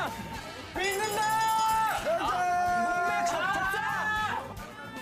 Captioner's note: screaming